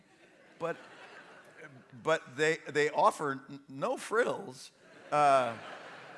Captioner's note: laughter